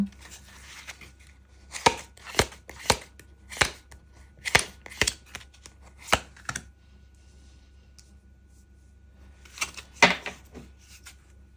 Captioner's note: drawing cards